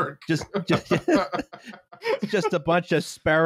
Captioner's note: laughter